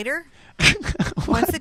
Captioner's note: laughs